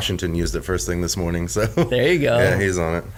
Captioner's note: laughs